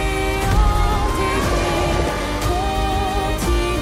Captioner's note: roaring